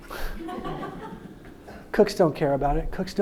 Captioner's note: audience laughing